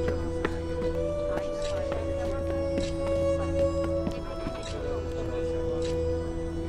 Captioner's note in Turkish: Ayak Sesleri